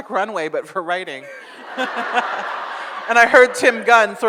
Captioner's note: audience laughs